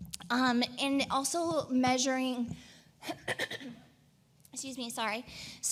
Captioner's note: clears throat